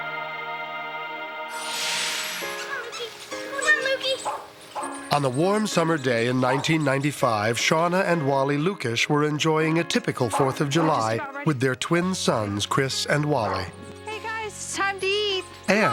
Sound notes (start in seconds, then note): 4.1 Lukee barks